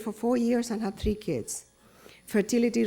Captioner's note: none